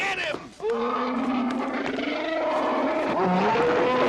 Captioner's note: Herman growling